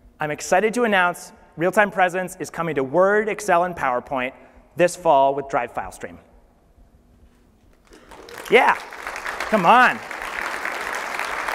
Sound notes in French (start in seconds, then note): 7.8 applaudissements